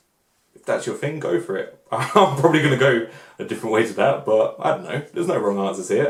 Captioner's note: laughs